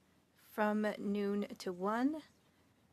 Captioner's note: speaking French